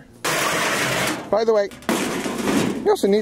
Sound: metal scrapes

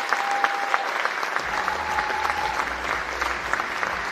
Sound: cheering and Applause

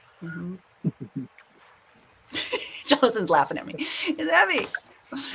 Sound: chuckling

